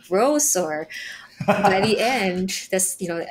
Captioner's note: both laughing